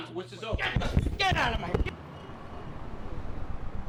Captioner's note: shouting; shouting